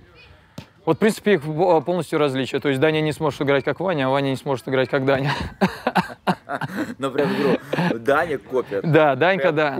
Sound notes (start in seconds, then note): 5.2 laughs